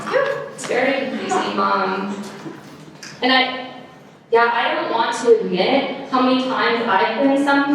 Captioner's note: audience laughter